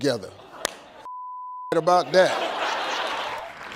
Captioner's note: beep